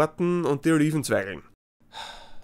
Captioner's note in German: seufz